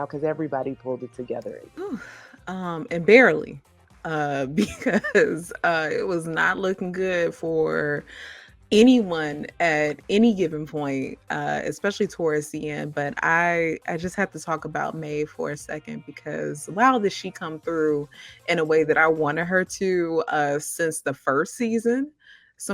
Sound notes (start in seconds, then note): 2.0 sighing; 4.6 laughing